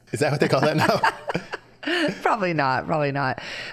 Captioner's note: both laughing